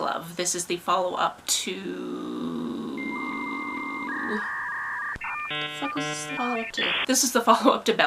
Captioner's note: dial up noises